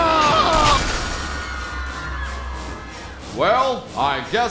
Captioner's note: building collapsing; audience screaming; yells